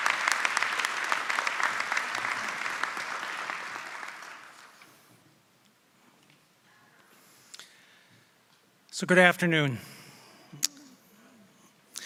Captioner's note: applause